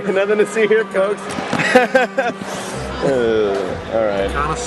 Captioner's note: That Joker guy laughs; groans